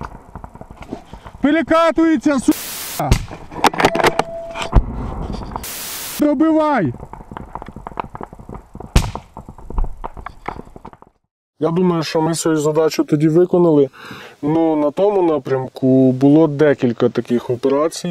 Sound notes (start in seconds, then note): 0.9 assault and sniper rifles shooting sounds